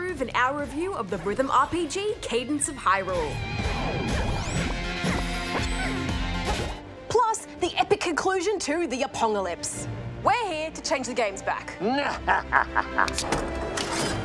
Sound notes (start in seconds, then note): 3.2 rock music plays; 12.2 laughs evilly